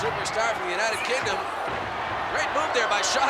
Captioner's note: blows thudding; body thudding